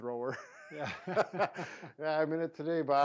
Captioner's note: both chuckling